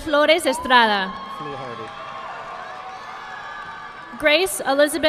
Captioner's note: audience clapping